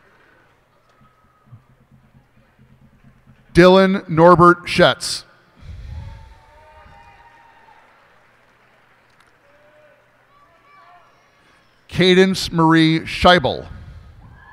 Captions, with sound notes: Dylan Norbert Schaetz. [cheers and applause] Kadence Marie Schaeuble.